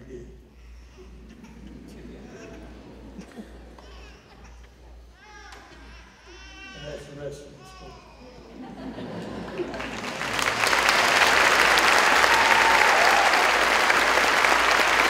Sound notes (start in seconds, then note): 2.9 applause